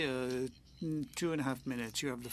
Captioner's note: speaking French